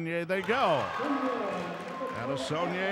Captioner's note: cheering